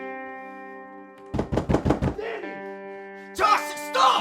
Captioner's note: door pounding